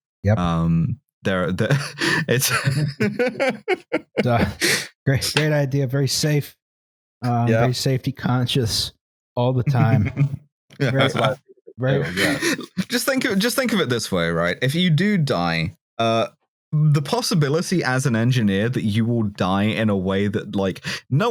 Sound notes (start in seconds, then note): 4.2 laughs; 10.8 chuckles